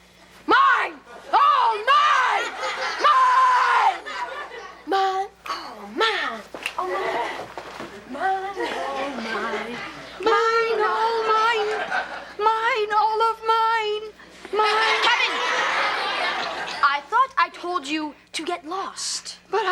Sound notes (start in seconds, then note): 2.0 audience laughs; 14.5 audience laughs